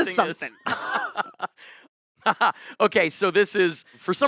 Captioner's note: both laughing